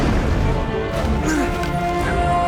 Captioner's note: grunting